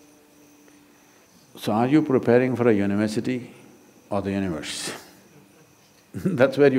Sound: laughs

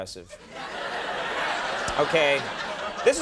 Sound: audience hooting

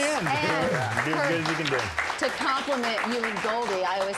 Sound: applause

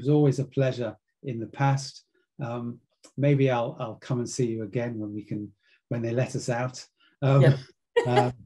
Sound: laugh

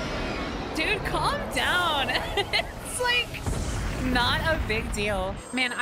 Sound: laughter

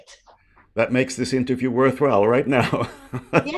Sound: laughs

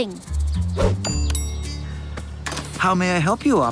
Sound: doorbell rings

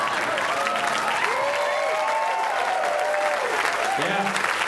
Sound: audience applause

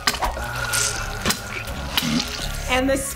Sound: moaning

